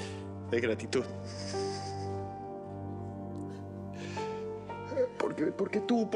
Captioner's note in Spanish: Sollozos